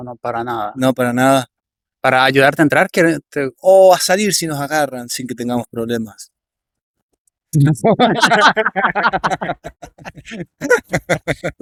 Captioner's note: Râsete